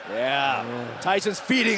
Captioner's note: fans chanting